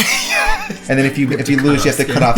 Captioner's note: laughs